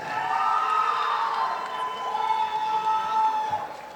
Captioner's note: audience applauding